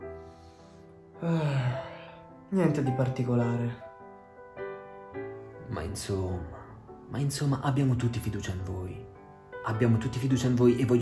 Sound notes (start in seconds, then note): 1.2 sigh